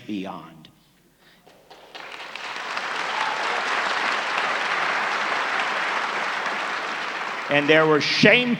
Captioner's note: applause